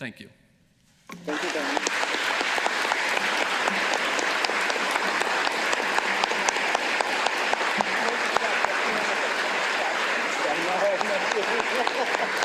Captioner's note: applause